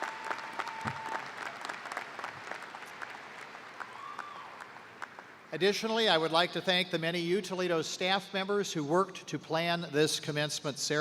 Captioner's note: cheers and applause